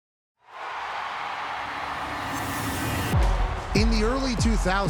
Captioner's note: crowd cheering